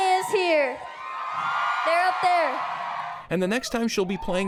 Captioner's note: crowd cheers